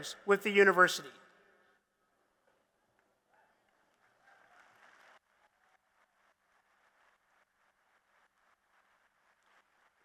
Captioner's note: applause